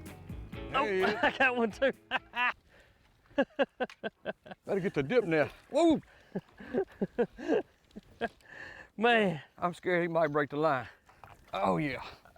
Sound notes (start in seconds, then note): 0.7 laughs; 6.3 laughs